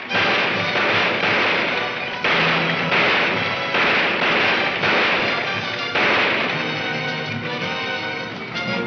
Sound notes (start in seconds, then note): 0.0 gunshots banging